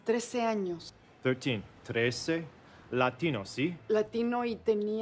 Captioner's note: speaking foreign language